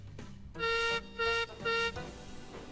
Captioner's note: peter sam whistles